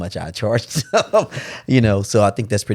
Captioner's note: laughs